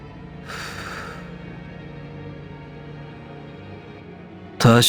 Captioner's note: blows smoke